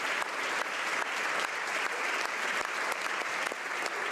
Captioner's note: applause